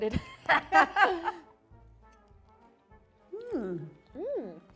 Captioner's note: both chuckle